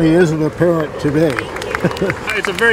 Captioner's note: tourists clapping